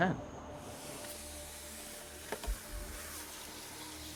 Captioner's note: fingers scraping